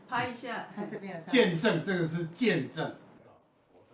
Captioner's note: background chatting